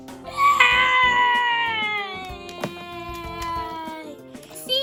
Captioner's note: screams